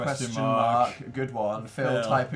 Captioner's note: sarcastically